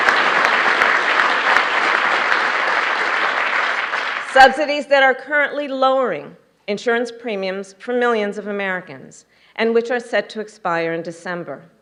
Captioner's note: applause